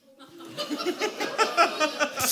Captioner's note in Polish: śmiech